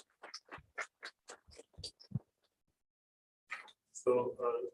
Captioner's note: applause